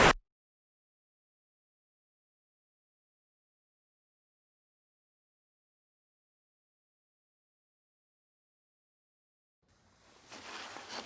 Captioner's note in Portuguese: silêncio absoluto